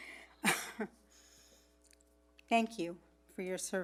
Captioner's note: laughs